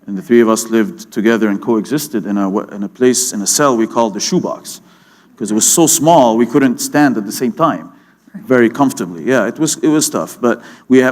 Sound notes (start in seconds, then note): none